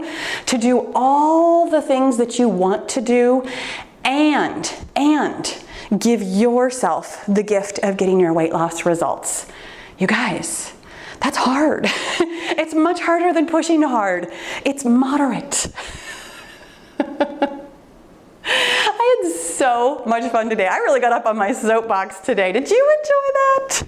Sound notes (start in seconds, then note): 15.3 laughs